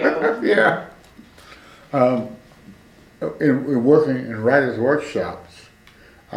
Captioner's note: laughs